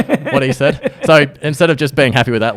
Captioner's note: laughs